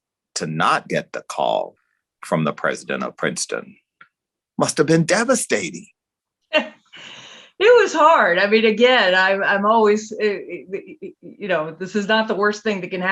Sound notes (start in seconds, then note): 7.1 laughs